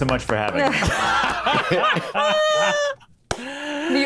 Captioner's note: all laugh